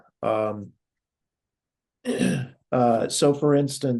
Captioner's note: cough